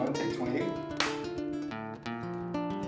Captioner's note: slate snaps closed!